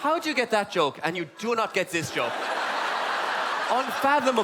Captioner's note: audience laughte